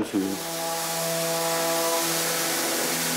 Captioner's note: sanding noises